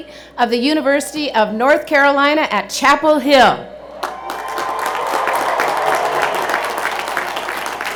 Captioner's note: cheers and Applause